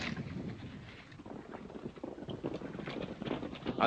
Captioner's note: horses galloping